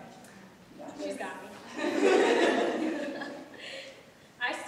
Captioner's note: audience laughs